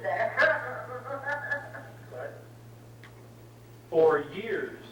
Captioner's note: laughing heartily